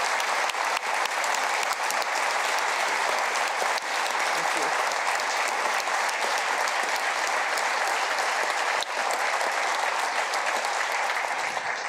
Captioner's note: applause